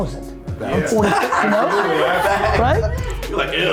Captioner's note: all laughing